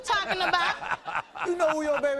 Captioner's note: laughing